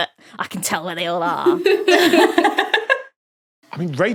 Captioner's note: guests giggling